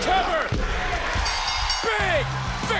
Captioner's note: bell dinging